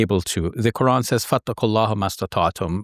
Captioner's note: speaks Arabic